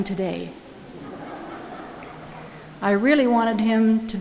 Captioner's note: audience laughing